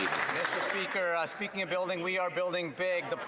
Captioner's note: some Applause